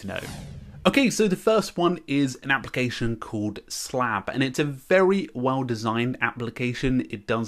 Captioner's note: slap